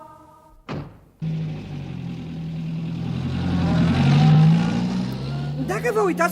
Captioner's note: sound of a car engine